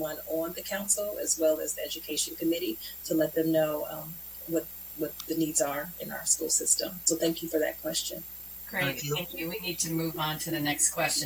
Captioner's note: spanish